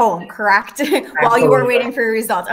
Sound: laughs

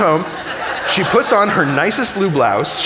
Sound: audience laughing

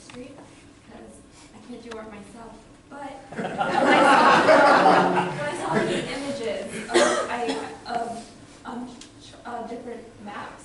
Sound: laughter

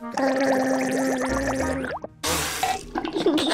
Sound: gargles

